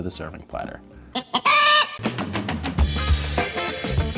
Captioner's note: chicken bawking; upbeat jazz music